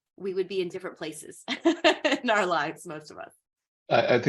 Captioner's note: laughing